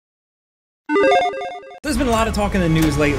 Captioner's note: digital tone